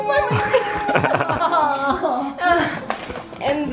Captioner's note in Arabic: يضحك